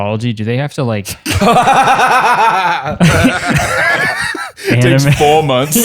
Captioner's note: laughter